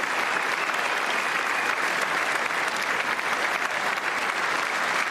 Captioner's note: applause